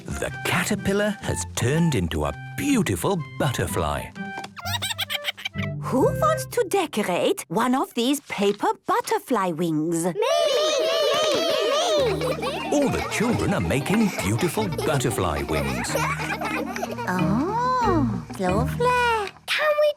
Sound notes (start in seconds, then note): 4.6 giggles; 10.2 all calling out